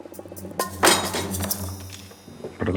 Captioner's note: thud